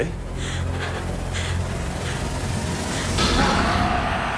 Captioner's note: gasping